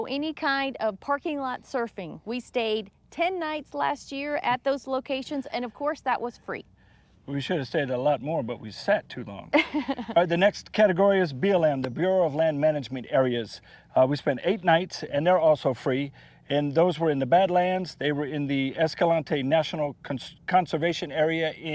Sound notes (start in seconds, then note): 9.5 laughs